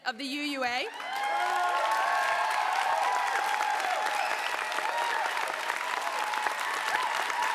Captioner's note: applause